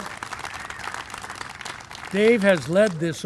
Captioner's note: applause